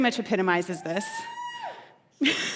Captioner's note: cheering